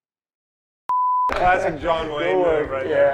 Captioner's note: beep